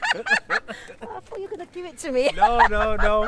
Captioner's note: laughing